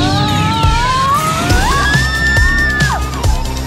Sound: screaming

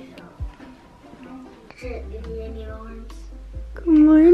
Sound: boys chatting

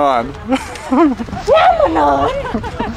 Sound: laughing; laughs; yelling

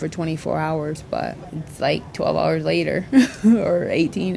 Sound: laughing

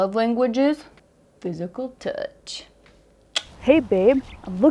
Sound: clicks tongue

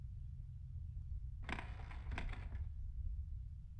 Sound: wood creaking

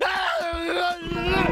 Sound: screaming

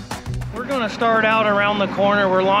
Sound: boat engine running

